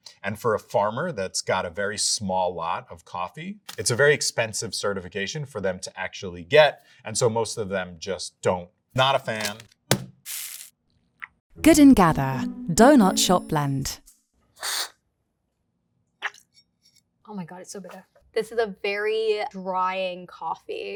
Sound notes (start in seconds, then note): 10.2 bag thudding and coffee pouring